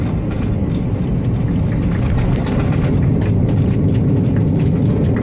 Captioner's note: passengers clap